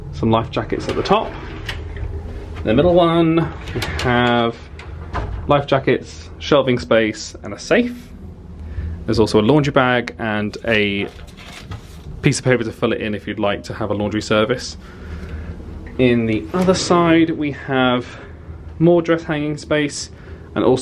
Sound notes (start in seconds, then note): none